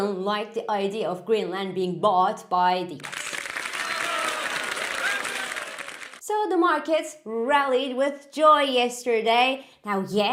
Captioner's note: cheery applause